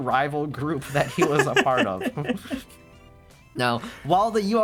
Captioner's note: laughing